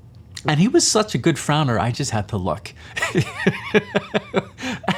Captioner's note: laughs